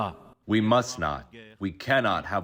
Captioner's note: through translator